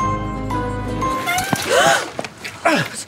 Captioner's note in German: Quietschende Bremsen; Fahrrad scheppert